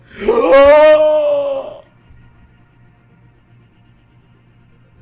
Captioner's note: incredible gasp